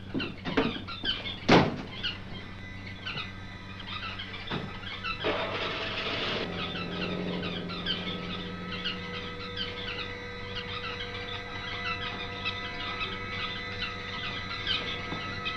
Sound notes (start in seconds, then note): 1.6 door slams; 5.7 car starts up; 10.3 birds chirping; 10.3 eerie music